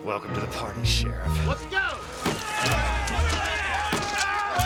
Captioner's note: all Yelling; gunfire; yelling Continues